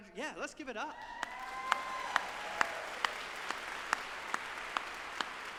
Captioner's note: audience applauding